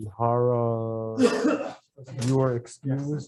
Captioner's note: member coughs